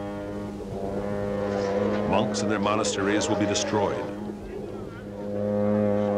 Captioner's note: long horn continues